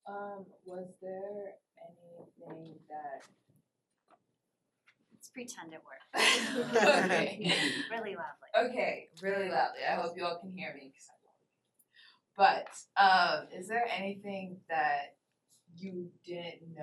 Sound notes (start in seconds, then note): 6.2 laughter